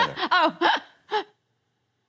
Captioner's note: laughs